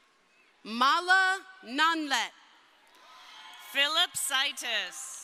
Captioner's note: crowd cheering